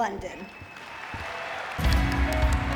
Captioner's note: audience clapping; upbeat music